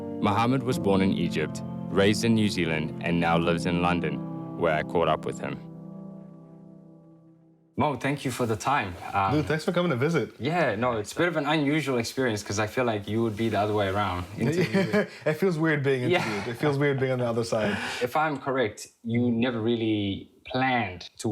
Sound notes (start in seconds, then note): 16.0 laughs